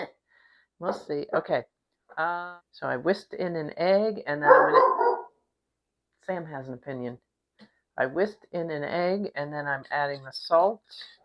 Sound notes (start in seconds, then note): 4.4 dog barks